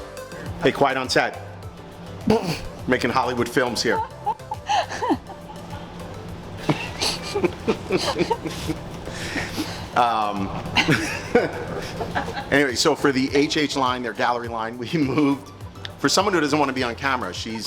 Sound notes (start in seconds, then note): 1.6 chuckling; 3.8 chuckling continues; 6.5 both laughing